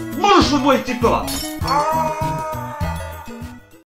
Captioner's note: breaking glass; Santa Claus screams in agony